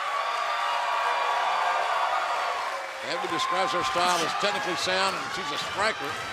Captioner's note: cheers and applause